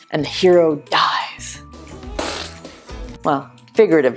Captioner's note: spitting sound